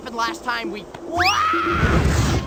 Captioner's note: Sokka screams like a little bitch